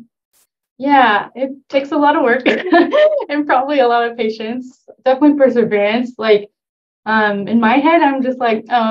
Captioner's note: laughter